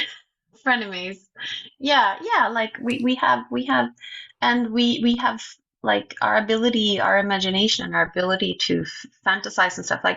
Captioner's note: chuckles